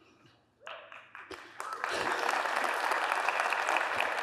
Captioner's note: applause